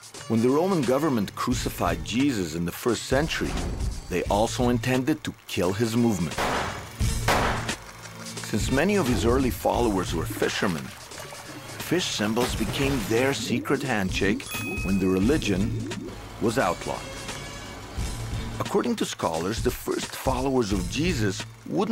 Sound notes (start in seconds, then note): 7.2 gun shots; 14.4 ding